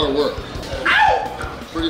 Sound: crowd member screaming

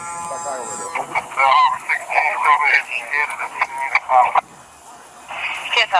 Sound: background radio talk

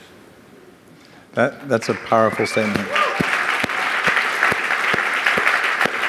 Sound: audience applauding

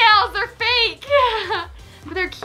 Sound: laughs

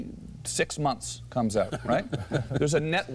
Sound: laughter

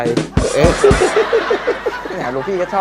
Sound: laughter

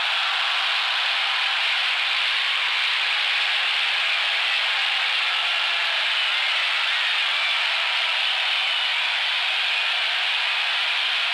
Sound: cheering

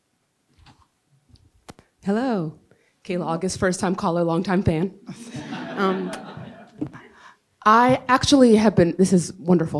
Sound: laughs

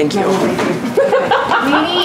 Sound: laughter

